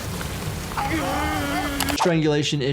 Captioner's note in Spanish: Jugador 456 gritando